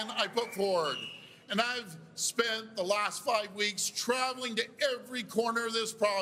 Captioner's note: cheers and Applause